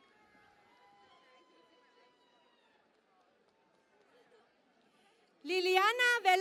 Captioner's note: cheering and Applause